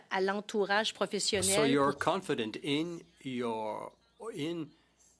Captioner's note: speaking French